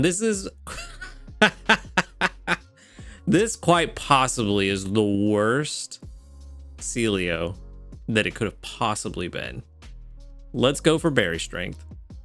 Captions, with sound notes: This is, (laughing) This quite possibly is the worst Celio that it could have possibly been. Let's go for berry strength.